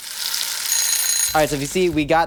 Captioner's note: timer ringing